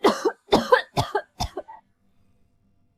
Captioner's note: cough cough cough